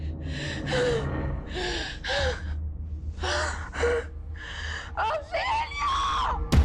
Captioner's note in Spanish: Respiración agitada